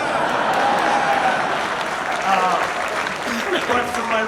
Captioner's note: audience applauds and cheers